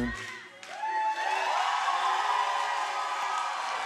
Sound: crowd cheers

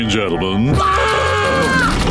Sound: screaming

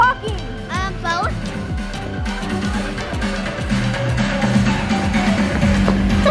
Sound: laughs

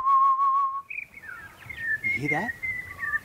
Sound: whistle; birds whistling

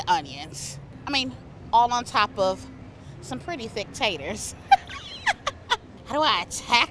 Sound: laughs

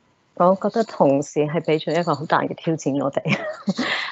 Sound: Cantonese; chuckles

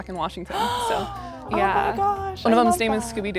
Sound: gasps

